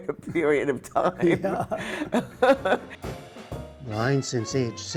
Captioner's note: laughter